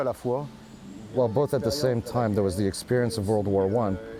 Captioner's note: speaking foreign